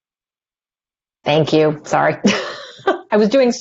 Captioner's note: laughter